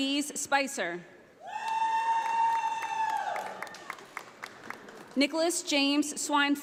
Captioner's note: audience applauding